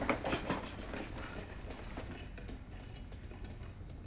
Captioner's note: wheels rolling